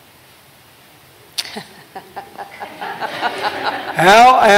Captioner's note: laughter